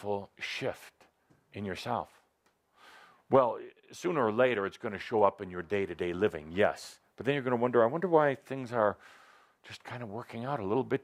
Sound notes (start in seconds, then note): none